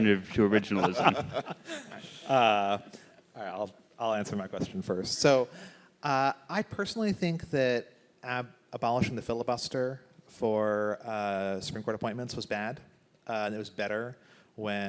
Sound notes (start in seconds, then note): 0.7 laughs